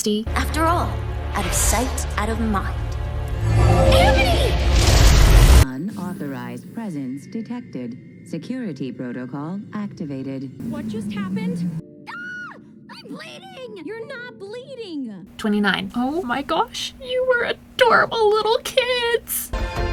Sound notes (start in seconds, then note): 12.0 Younger Catra screams